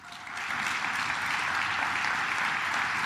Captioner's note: claps